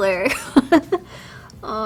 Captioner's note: giggles